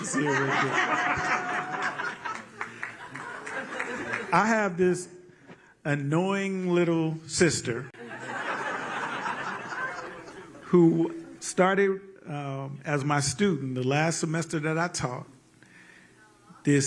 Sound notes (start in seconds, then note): 8.0 laughter